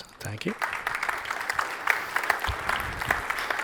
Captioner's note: applause